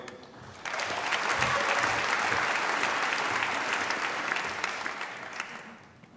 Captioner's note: applause